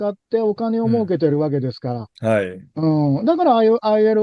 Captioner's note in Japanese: 咳払い